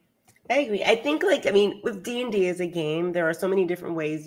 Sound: none

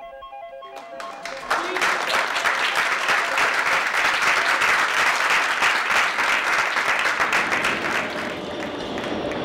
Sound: applause

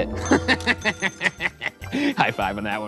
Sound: laughing

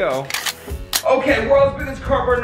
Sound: gun cocking

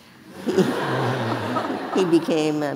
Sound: audience laughing

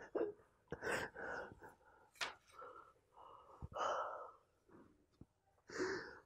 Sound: he's crying

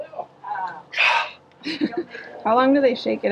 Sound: gasping; laughing

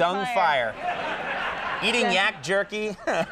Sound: audience laughs

